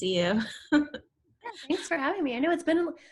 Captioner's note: laughs